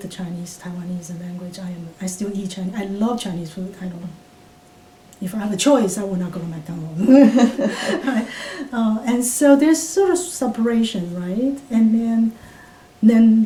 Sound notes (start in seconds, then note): 7.0 all laugh